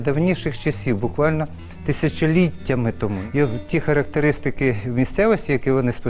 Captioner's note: speaking in foreign language